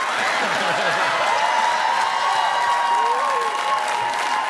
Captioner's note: crowd cheering